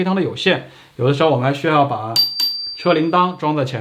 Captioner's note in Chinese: 铃铃～